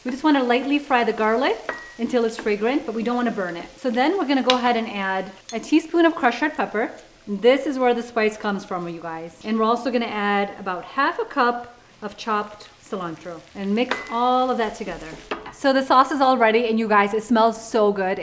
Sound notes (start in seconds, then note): 1.4 oil sizzling; 13.5 mixture sizzling